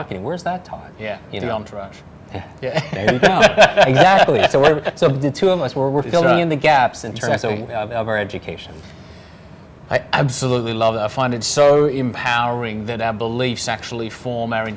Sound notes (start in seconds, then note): 2.7 laughs